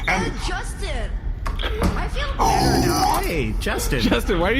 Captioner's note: Kor groans angrily